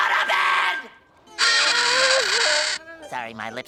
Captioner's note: screeching